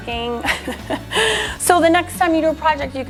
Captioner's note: laughs